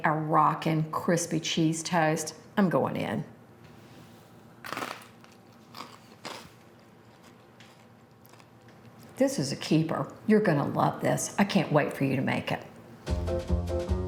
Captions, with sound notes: And we made a rockin' crispy cheese toast. I'm going in. [toast crunching] This is a keeper, you're gonna love this. I can't wait for you to make it.